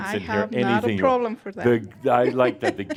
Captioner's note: she chuckles